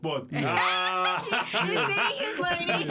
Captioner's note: laughter